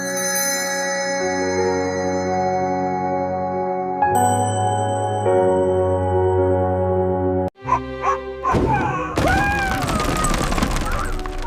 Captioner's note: screaming